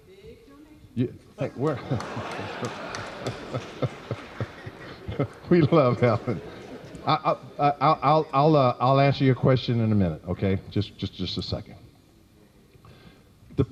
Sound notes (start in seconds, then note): 1.4 laughter